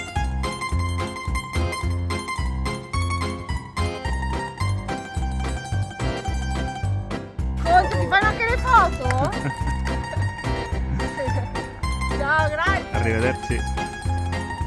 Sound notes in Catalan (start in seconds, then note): 7.5 Dona parla en italià; 12.2 en italià: Adéu, gràcies